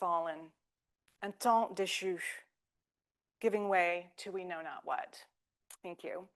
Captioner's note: speaking French